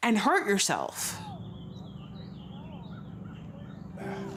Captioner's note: birds singing